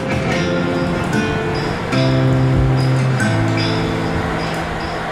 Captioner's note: monsoon sounds over music bed